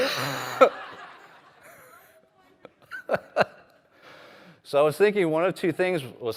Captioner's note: laughter